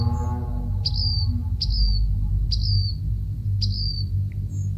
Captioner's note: bird chirping